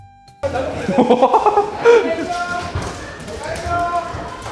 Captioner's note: laughs